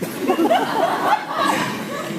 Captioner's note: laughs